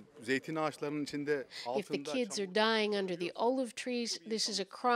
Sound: speaking Foreign Language

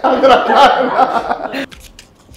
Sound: laughing

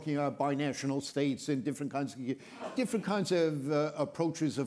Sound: attendee sneezes

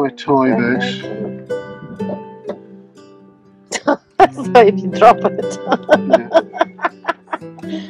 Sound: laughs

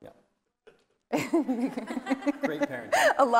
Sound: laughing

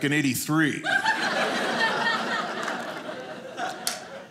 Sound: audience laughing

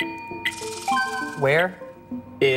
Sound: bell dings

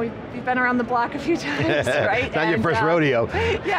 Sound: laughs

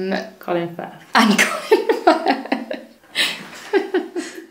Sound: both laugh

